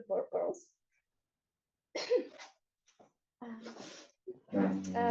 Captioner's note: coughing